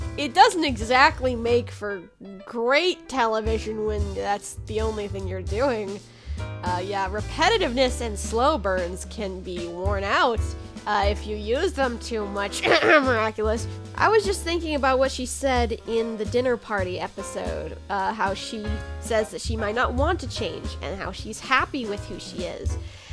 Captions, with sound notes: it doesn't exactly make for great television when that's the only thing you're doing. Uh, yeah, repetitiveness and slow burns can be worn out, uh, if you use them too much... *COUGH COUGH* miraculous... I was just thinking about what she said in the dinner party episode, uh, how she says that she might not want to change and how she's happy with who she is,